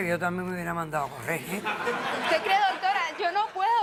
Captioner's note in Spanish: Risas